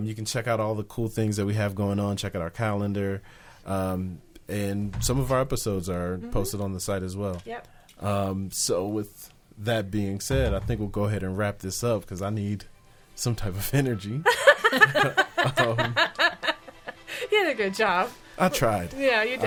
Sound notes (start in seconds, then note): 14.3 laughing